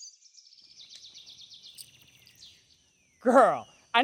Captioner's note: birds chirping